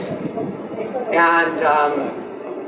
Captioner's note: none